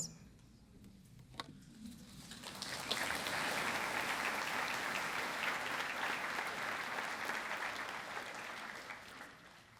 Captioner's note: applause